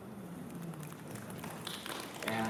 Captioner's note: applause